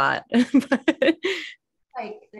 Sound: laughs

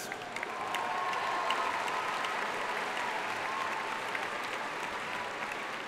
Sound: audience cheering and applauding

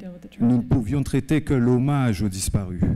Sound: speaking french

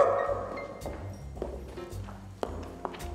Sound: barks

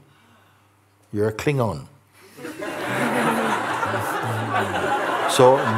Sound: laughter

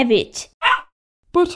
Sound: bark!

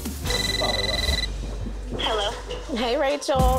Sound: cell phone ringing

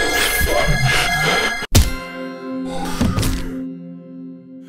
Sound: bell; body drop

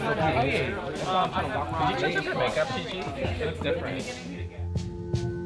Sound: voiceover; queens chattering

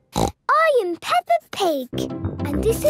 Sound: snorts

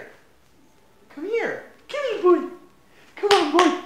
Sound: using high pitch voice

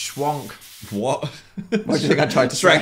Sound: laughs

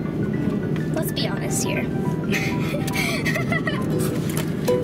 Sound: laughs

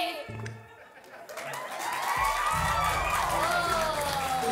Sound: audience applauding

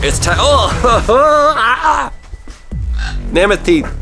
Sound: coughs

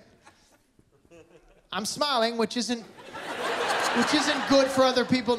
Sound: laughter

